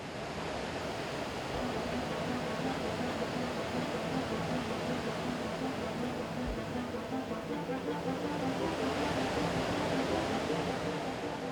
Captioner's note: rushing water and music